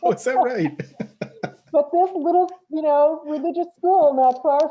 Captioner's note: both laugh